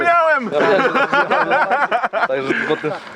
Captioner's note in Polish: śmiech